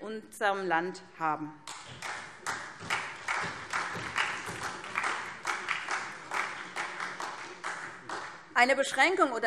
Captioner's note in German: Beifall SPD